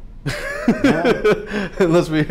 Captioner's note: laughter